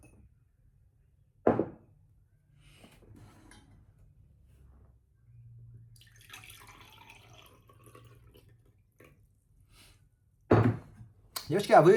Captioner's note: water pouring